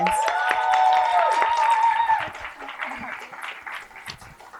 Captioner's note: cheering and applause